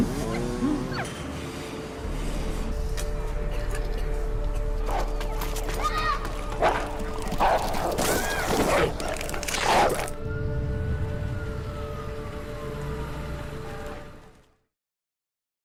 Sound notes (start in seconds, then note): 7.4 dog barks; 10.8 siren wails